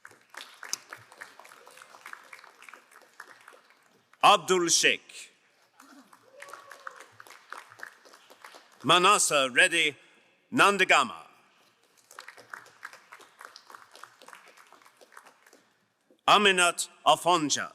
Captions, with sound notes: (crowd applauding) Abdul Sheik. (crowd applauding) Manasa Reddy Nandagama. (crowd applauding) Amenat Afonja.